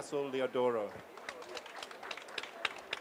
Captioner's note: applause